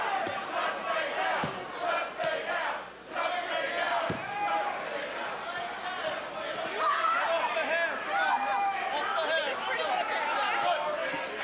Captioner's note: fans chanting